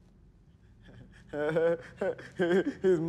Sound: soft laughing

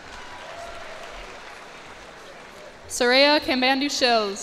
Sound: cheers and applause

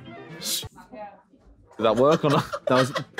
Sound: makes swooshing sound

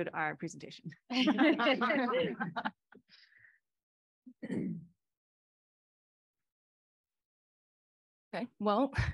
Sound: laughter

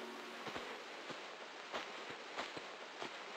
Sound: noises of someone walking

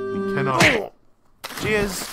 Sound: smack

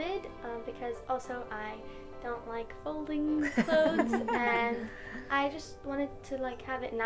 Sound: laugh

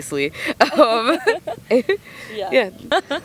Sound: laughter

